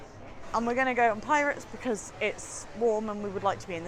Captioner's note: none